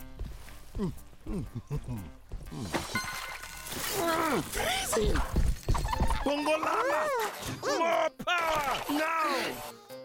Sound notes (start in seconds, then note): 1.3 chuckling; 3.1 soft splash; 3.8 grunting